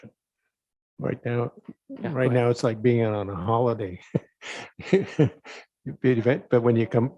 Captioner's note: laughs